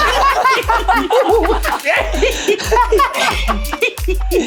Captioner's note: laughing